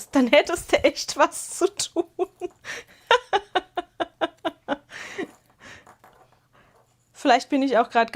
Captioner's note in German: gelächter